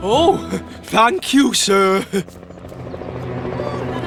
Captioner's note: chuckles; helicopter Rotors Whir